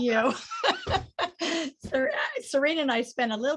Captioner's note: laughs